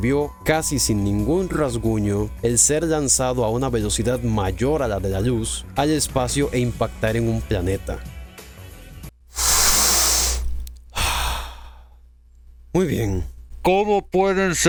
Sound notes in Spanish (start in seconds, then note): 9.3 respira profundo